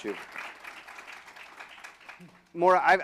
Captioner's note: applause